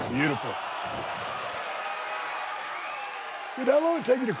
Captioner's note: audience cheers